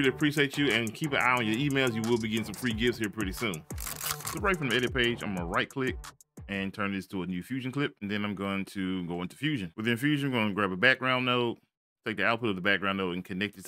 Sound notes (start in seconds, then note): 3.7 camera shutters